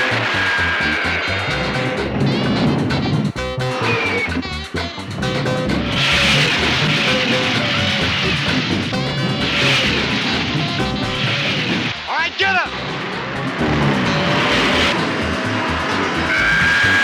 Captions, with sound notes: Alright, get 'em! (zooming)